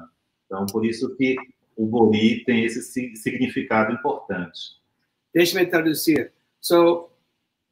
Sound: speaks portuguese

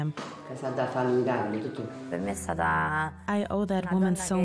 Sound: speaking in Italian

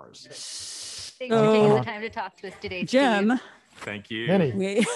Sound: overlapping chatter

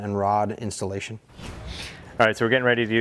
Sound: air whooshing loudly

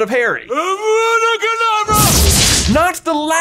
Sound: powerful explosion

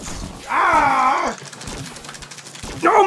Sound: groans

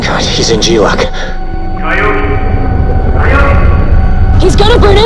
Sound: echoing

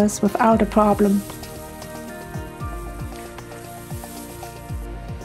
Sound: sound of grass

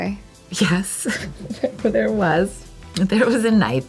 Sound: laughs

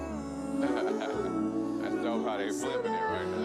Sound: all vocalizing; laughs

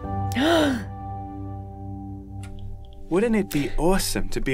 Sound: Emma gasps

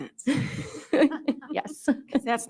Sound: both chuckle

